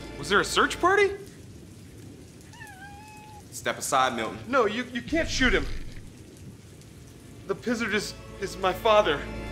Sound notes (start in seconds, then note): 2.4 meowing